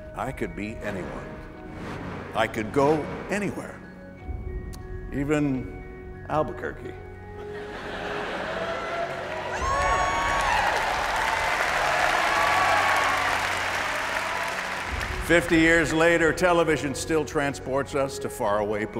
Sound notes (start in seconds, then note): 7.4 laughter; 11.3 cheering